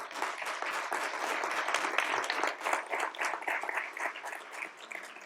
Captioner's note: applause